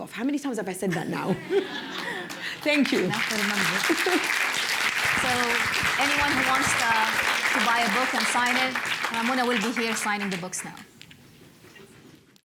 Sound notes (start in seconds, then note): 1.1 laughter; 4.3 applause